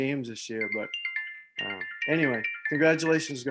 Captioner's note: cell phone ringing